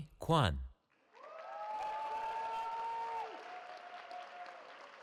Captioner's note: cheering